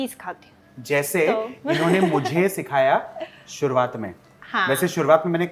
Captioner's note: chuckles